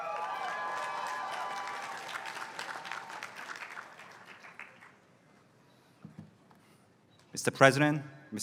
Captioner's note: applause